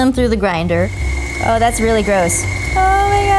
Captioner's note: grinder running